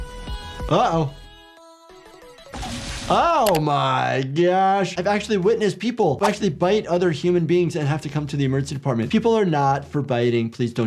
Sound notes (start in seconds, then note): 2.5 blood squelching; 3.4 mouse clicking